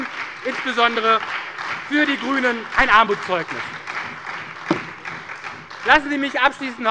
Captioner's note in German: Beifall bei der SPD und der FDP